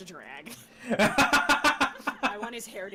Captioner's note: laughing